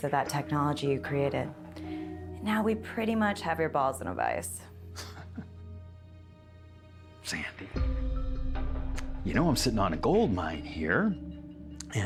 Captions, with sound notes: of that technology you created. Now we pretty much have your balls in a vice. (Winston chuckling) - Sandy. (dramatic music) You know I'm sitting on a gold mine here,